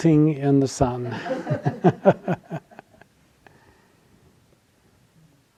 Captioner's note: audience laughing